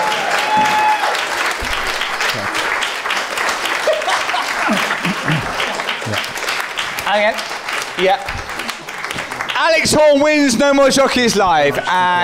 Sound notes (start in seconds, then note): 3.6 laughing